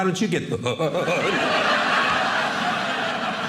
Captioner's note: audience laughing